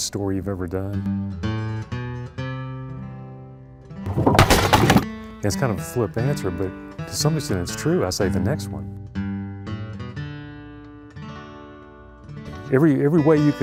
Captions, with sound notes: (loud chop) It's kind of a flip answer, but some to say, it's true, I say the next one. (blues guitar) Every way you can imagine, we get story ideas.